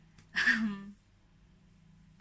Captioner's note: laughs